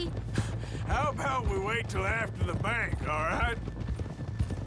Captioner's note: laughs